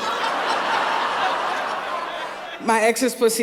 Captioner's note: laughter